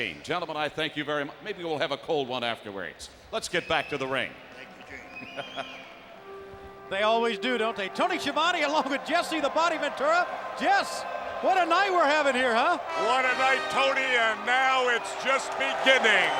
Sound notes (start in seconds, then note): 5.0 laugh